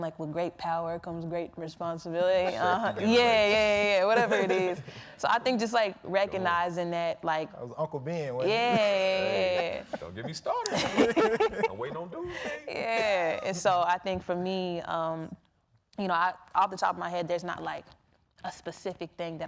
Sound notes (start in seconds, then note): 10.9 people laughing